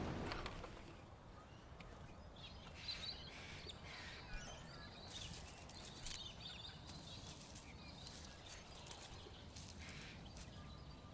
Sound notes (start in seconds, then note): 0.6 birds tweeting; 5.2 leaves rustling